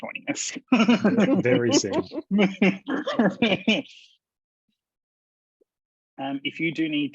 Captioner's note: laughs